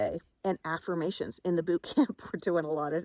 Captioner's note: chuckles